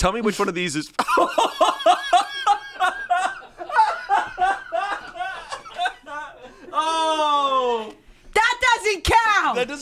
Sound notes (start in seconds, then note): 1.0 laughs